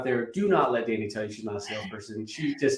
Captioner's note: chuckles